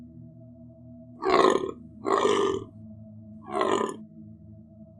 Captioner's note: animal croaking